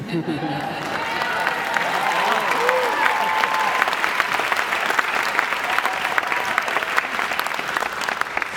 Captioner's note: applause